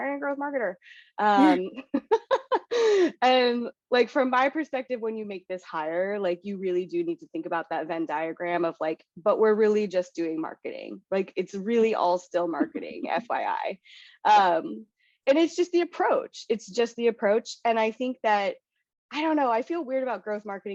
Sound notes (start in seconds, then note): 1.9 laugh